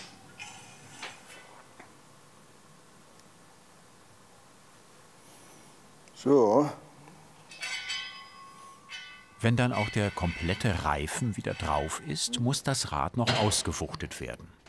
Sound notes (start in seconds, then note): 1.7 silence; 7.3 metal rubbing